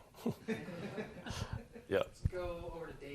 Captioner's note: laughter